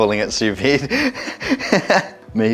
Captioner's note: laughs